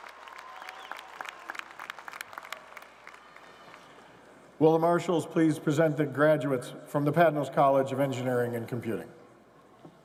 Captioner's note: cheers and applause